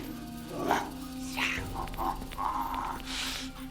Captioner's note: growling and hissing